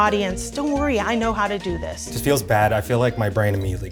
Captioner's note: none